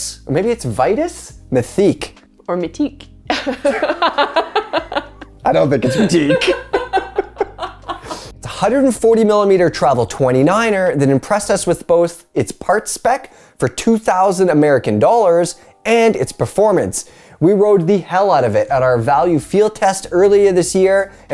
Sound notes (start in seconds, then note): 5.6 both laughing